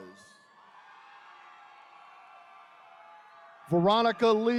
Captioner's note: attendees cheering